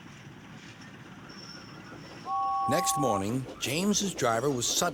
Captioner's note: whistles